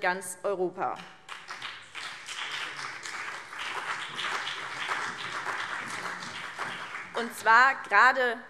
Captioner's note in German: Beifall BÜNDNIS 90/DIE GRÜNEN und CDU